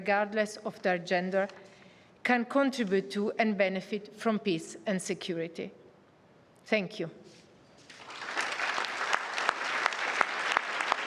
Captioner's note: applause